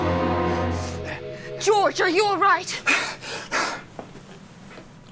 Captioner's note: George Gasping